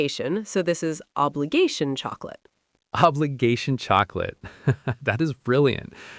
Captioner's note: laughs